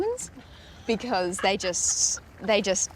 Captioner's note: laughs